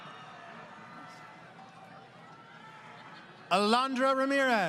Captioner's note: crowd Cheering